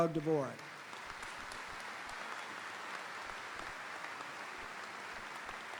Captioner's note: audience applauding; audience cheering